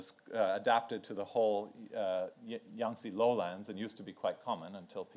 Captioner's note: speaks in foreign language